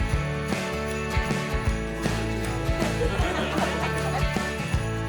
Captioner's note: laughter